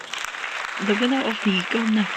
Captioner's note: applause